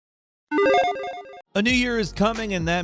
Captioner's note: retro bloop